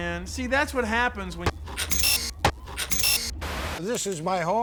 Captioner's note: drilling